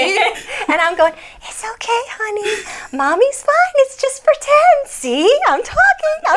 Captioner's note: in sing-song tone